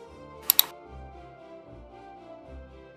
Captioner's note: mouse clicking